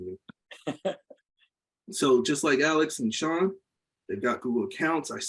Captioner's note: laughs